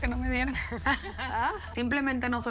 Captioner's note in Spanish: ríe